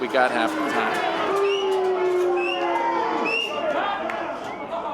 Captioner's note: people shouting